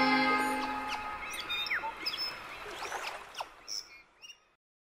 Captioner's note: birds chirping